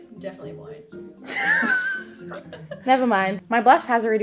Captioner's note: both laughing